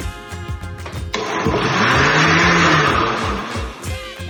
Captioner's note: sonido de batidora